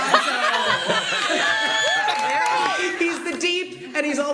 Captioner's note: laughter; cheers and applause